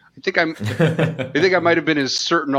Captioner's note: laughter